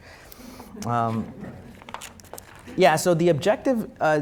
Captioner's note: audience chuckling